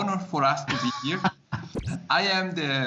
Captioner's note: laughs